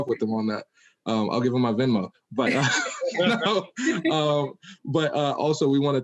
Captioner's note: laughing